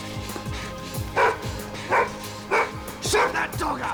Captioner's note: dog barks